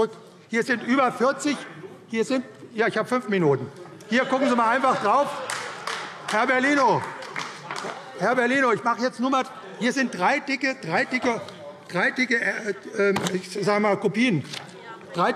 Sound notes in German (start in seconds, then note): 4.4 Heiterkeit und Beifall AfD